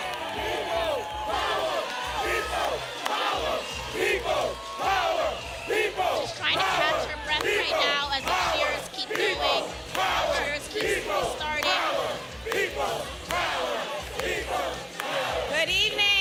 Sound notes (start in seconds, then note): 0.0 applause